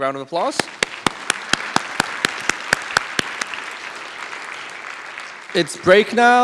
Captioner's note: applause